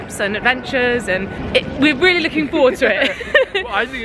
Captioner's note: laughs